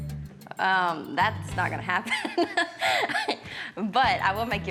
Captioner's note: laughs